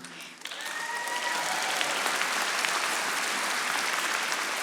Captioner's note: audience applauding